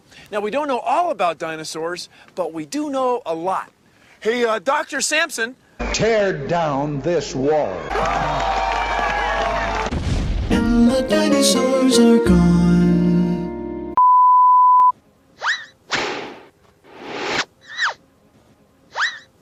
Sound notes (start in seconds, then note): 7.6 crowd cheering, dinosaur screams; 9.8 explosion; 11.3 jingle